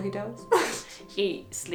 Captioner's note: chuckles